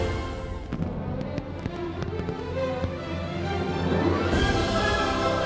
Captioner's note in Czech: bouchání ohňostrojů